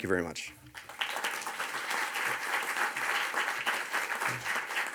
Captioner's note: audience applauds